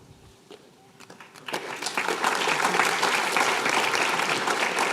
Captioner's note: applause